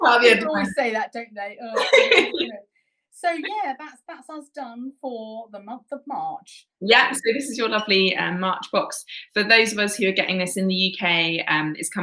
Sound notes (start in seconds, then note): 0.0 both laughing; 1.7 both laughing